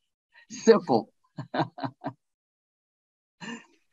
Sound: chuckles

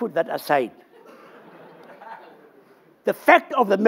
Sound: laughter

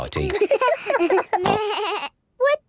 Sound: giggles, snorts

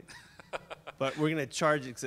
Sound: laughing

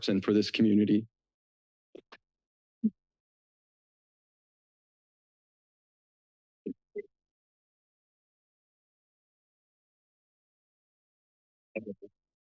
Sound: silence

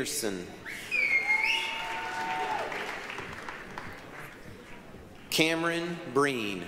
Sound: applause, cheering

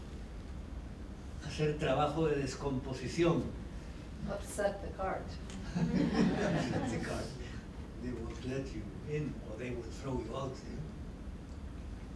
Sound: laughter

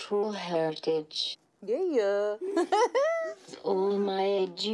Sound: laughs

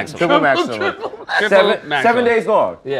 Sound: laughs

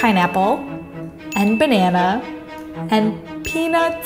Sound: bell dinging

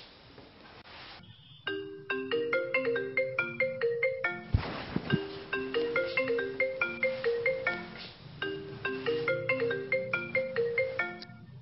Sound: phone ringing

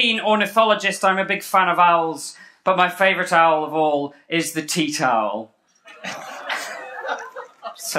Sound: groans and laughter

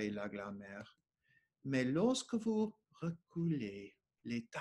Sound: speaking French

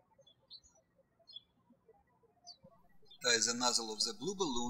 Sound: birds chirping

